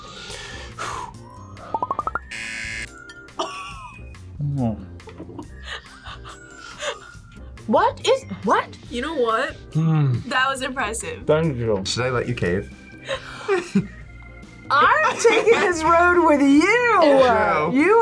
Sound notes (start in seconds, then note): 0.0 both sniffing; 0.3 sighs; 2.2 buzzer; 5.3 laughs